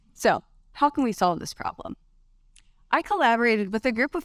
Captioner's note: none